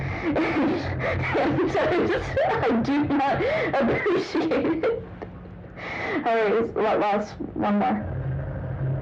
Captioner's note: laughing while talking